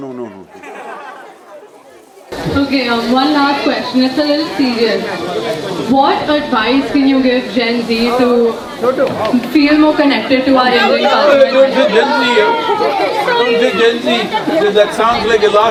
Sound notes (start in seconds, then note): 0.1 few laugh; 13.4 few laugh